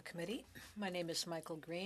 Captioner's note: speaking French